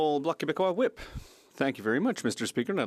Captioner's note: speaking French